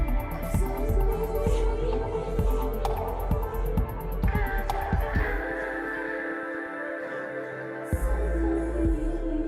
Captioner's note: humming